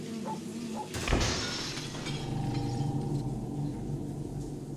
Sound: loud shattering, singing stops

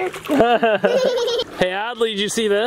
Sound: laughing

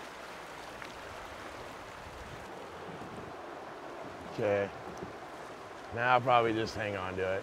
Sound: water flowing

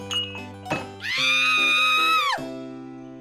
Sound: screams

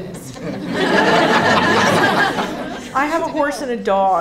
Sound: audience laughing

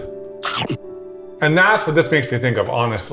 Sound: food munching

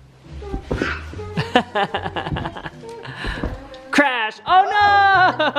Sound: laughing

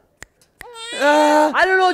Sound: baby crying

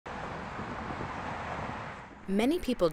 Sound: cars whirring

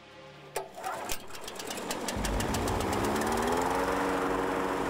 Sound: whirring

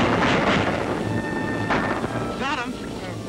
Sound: gun shots

